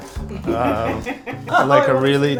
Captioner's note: laughing